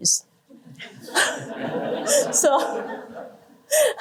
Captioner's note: laughter